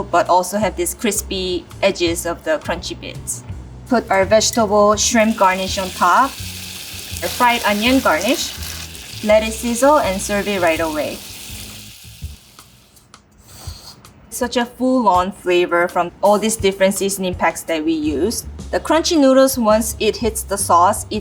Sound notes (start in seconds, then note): 6.2 food sizzling